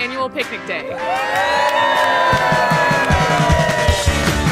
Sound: crowd cheers

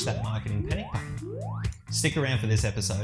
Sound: alarm ringing

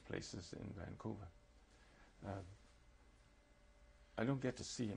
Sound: pauses for 3 seconds

